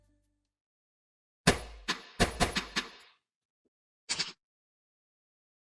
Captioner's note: sound of bullets hitting screen